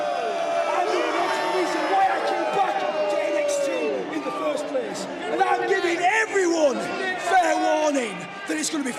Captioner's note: yelling; crowd yells